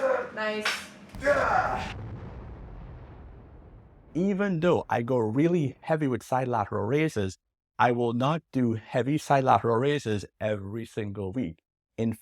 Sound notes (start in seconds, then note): 1.1 air whooshes